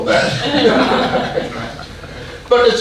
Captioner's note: audience laughing